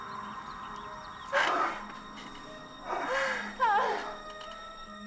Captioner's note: moaning